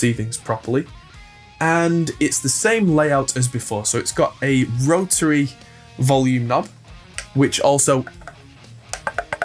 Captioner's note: clicks